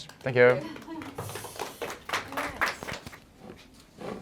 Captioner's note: applause